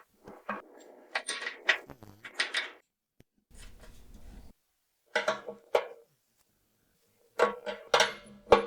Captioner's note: clanking